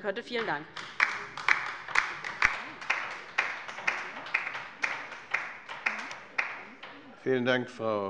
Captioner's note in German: Beifall bei der LINKEN